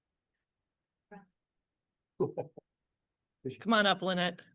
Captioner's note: laughs